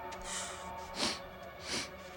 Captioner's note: sniffing